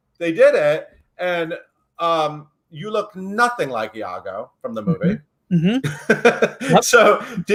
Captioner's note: laughs